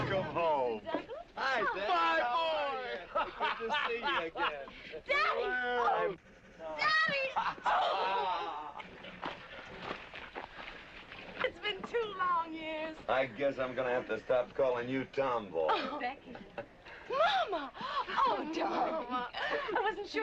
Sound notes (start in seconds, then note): 7.0 laughing; 15.6 chuckling